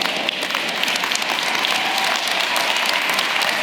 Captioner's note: applause